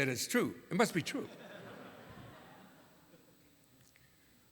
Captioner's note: laughter